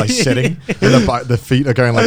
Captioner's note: laughing